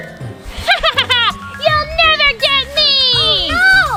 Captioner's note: laughs